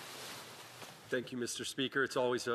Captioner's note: speaking French